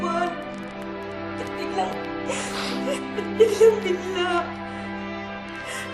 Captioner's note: sobbing